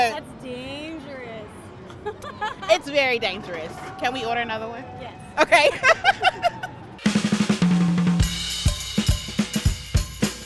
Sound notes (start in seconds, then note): 1.9 laughs; 5.4 laughing; 7.0 instrumental music